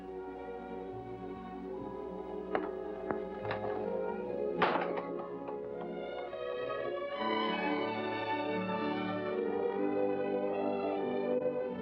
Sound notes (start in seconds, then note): 4.5 door closing; 7.1 romantic music